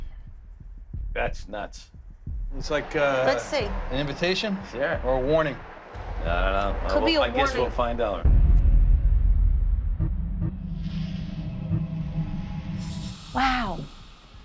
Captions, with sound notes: That's nuts. It's like-- - Let's see. - --an invitation. Yeah. Or a warning. - I don't know. - Could be a warning. I guess we'll find out. [eerie pulses] Wow.